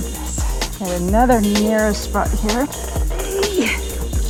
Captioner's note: groaning